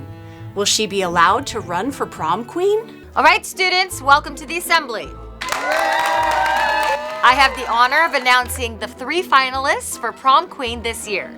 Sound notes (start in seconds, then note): 5.4 applause